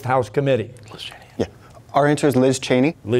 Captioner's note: whispering